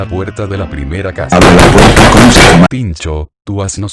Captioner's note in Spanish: azota la puerta violentamente